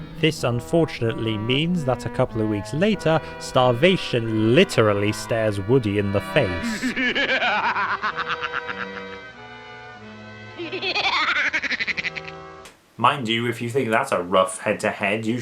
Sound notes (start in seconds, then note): 6.5 laughs maniacally; 10.4 laughs maniacally back